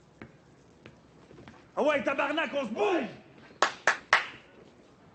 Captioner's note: thug speaking French